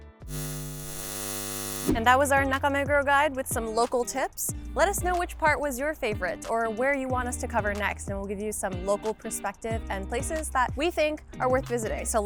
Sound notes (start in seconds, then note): 0.2 electricity buzzing